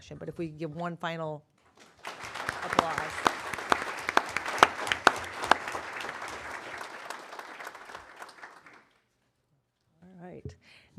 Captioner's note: applause